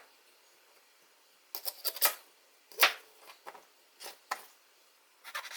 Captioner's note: cutting vegetables